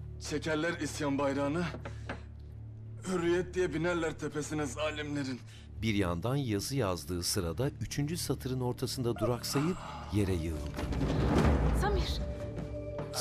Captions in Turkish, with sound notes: Çekerler isyan bayrağını... ...hürriyet diye binerler tepesine zalimlerin. Ah! (Düşme sesi) Samir!